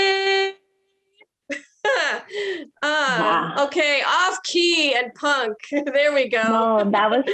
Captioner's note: chuckles